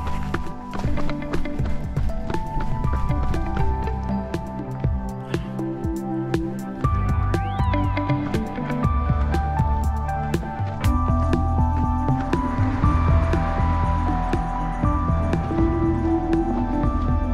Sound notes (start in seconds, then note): 13.0 engine roars